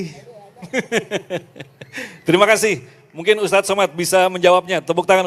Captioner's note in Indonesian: tertawa